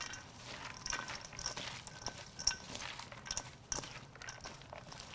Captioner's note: wet ingredients sloshing